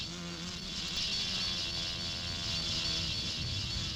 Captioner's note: wasps buzzing